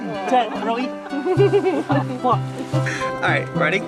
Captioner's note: laughing